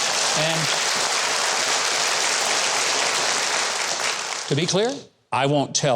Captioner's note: audience applauds